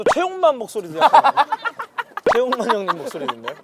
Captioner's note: laughing